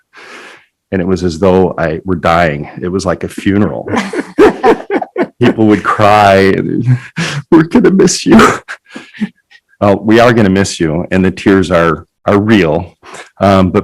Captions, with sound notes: And it was as though I were dying, it was like a funeral. (laughing) People would cry, "We're gonna miss you." We're gonna miss you and the tears are real.